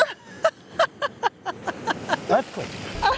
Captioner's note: laughs